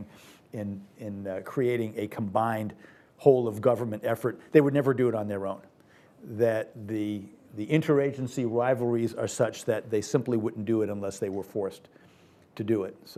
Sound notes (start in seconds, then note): none